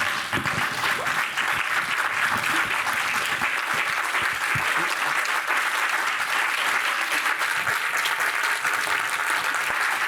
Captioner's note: applause